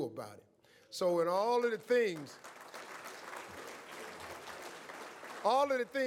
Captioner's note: audience applauds